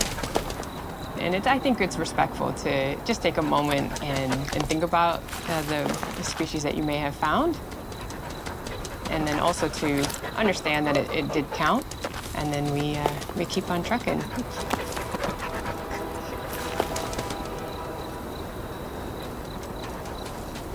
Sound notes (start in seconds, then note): 14.7 dog panting; 17.4 crickets chirping